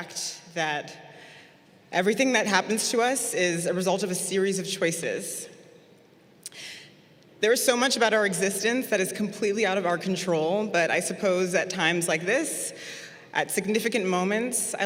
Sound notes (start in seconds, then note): none